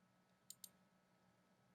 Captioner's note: clicking sound